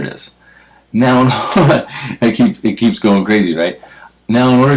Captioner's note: laugh